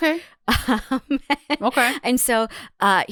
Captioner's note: laughs